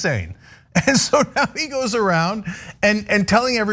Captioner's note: laugh